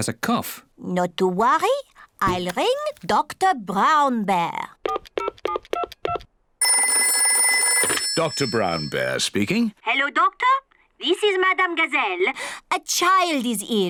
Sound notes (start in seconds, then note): 4.4 dials phone; 6.6 phone rings